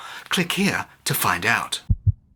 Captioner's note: heart beat